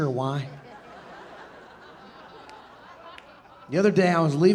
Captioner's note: audience laughing